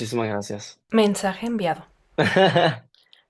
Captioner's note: laughter